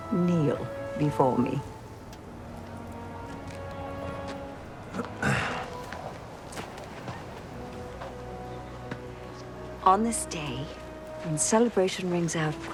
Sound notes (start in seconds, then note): 5.0 Nicolas clears throat